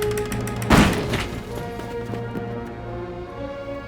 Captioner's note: door bangs open